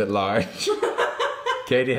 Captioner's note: laughing